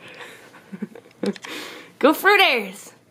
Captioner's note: laughs